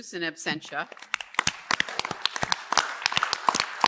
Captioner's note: applause